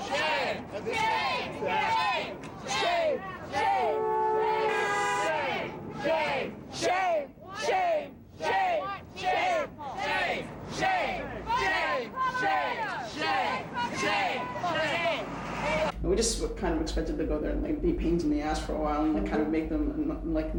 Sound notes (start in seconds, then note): 10.4 chant